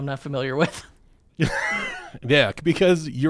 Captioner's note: laughing